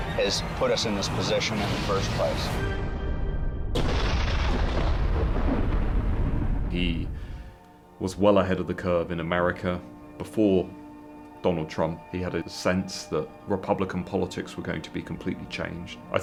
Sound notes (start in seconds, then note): 3.7 title crashing